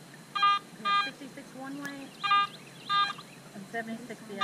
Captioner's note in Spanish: pitido